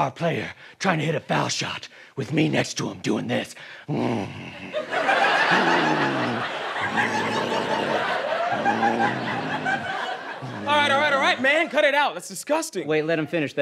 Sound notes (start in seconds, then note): 5.2 grunting